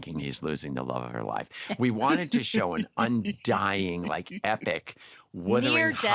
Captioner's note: laughter